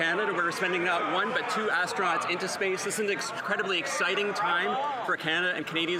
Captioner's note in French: voix de l'interprète